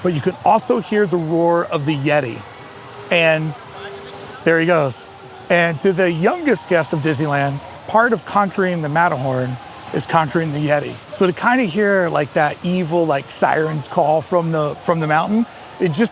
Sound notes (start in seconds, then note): 2.9 Yeti howls in distance